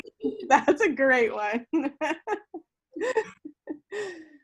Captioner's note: laughs